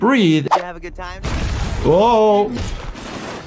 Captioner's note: building explodes